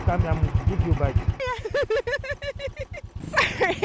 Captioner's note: laughing